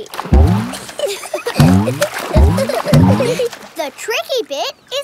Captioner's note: giggling